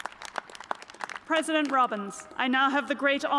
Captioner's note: cheers and applause